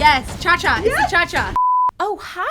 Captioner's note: beep